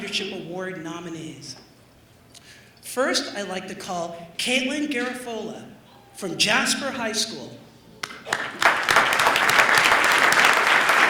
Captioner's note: applause